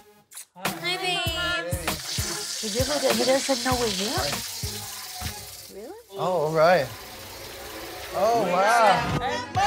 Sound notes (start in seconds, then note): 2.7 water running